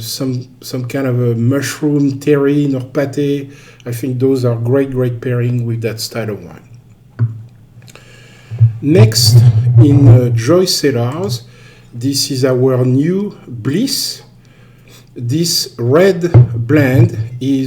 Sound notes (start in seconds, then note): 7.2 wine glass thuds; 16.3 wine bottle thuds